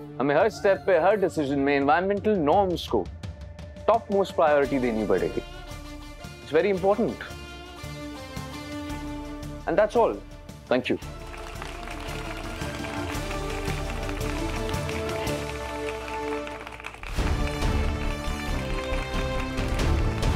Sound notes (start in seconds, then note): 7.7 pensive music playing; 11.2 applause; 17.0 applause